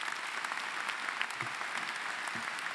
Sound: applause

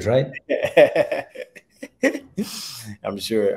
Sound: chuckles

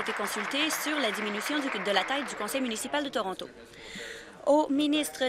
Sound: applause

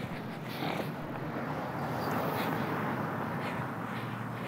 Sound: car engine revving

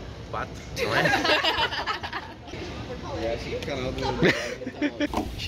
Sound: laughter

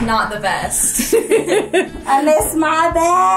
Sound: laughs

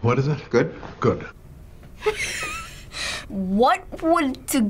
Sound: laughs

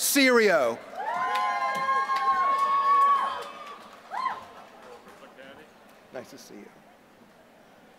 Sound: applause

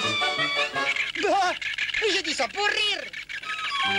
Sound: exclaims

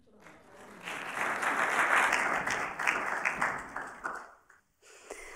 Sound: applauding

